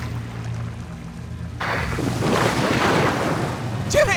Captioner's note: water splashes